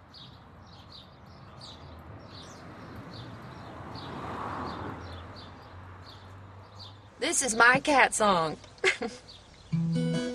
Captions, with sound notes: (traffic noise) This is my cat song (laughs).